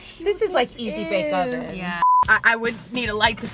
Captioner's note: high pitched beeping